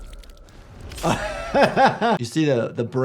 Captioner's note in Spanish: risas